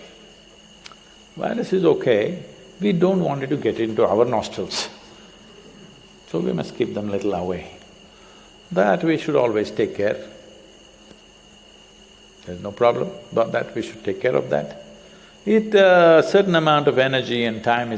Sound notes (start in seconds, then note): none